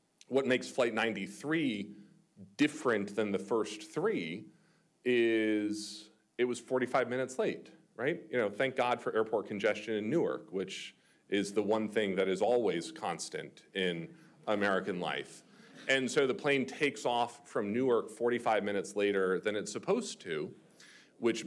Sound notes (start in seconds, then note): 15.6 audience chuckling